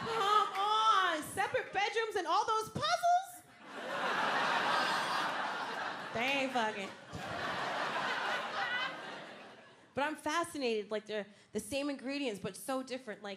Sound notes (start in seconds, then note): 5.7 crowd laughing; 7.7 crowd laughing